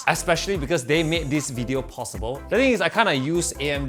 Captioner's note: none